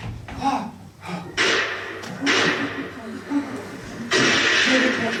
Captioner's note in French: Deux coups de fusil